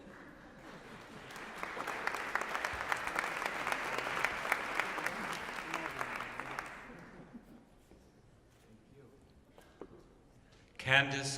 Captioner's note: applause